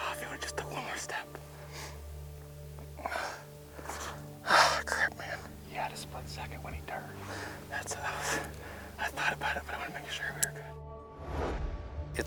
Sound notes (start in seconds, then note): 3.1 panting